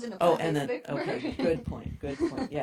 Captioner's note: giggles